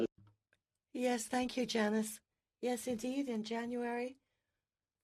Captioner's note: speaking French